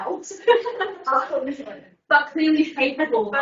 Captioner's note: everyone laughing